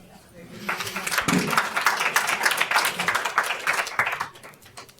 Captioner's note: audience applauds